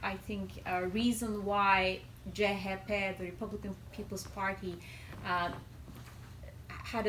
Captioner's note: non-english